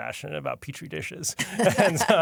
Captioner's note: laughter